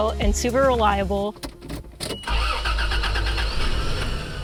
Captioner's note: keys in ignition - engine starts